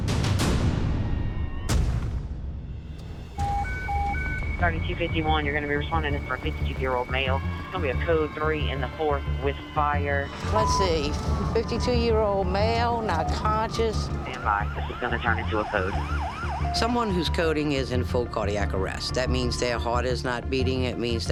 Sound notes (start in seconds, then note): 0.3 dramatic music; 4.0 beeping